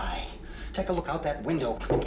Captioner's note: none